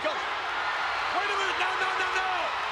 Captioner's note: spectators cheering